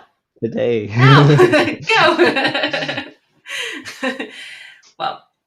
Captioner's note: laughter